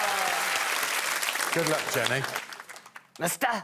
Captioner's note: cheering and applause